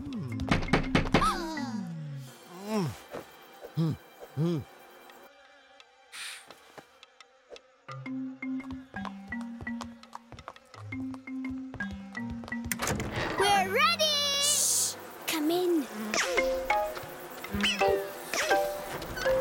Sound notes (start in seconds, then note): 0.4 stairs creaking; 2.1 grunting; 15.7 insects buzzing